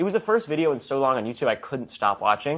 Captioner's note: none